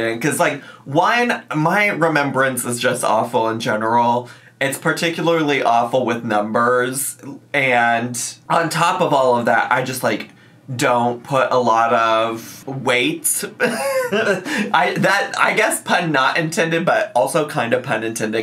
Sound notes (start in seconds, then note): 13.6 laughs